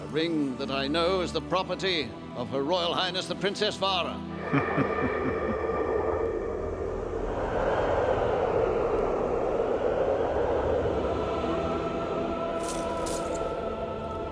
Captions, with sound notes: A ring that I know is the property of her royal highness the princess Vara. (chuckles) (dramatic music)